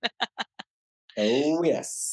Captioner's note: laughs